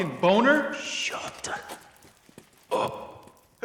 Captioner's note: whispers